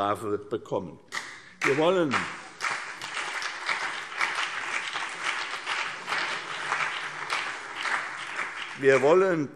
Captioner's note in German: Beifall CDU und BÜNDNIS 90/DIE GRÜNEN